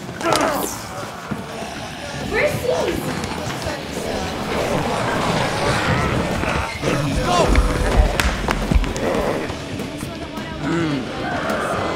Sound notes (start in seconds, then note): 0.2 Eddy grunts; 4.2 zombies clamoring; 8.2 zombies groaning